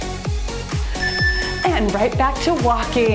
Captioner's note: timer beeps